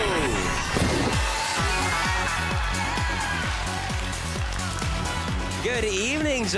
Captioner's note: applause, cheering